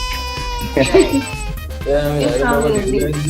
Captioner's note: laughs